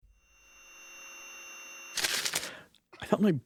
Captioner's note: paper tearing